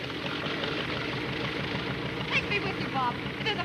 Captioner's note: airplane motor revving